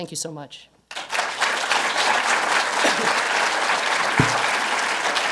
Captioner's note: applause